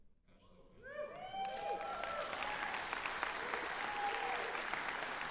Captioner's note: cheers, applause